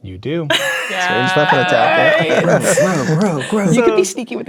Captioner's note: players reacting